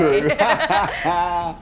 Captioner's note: laughter